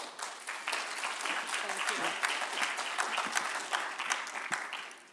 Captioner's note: applause